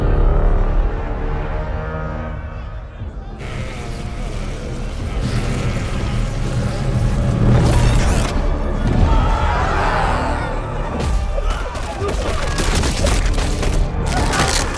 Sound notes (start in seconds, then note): 3.7 intense magic crackling; 8.7 soldiers shouting; 11.3 bodies thud and splatter; 11.3 bones cracking